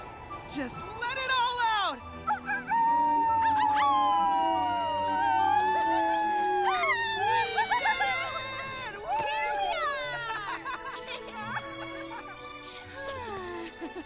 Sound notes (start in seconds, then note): 2.5 all howling; 6.7 gleefully; 8.8 cheering; 10.0 chuckling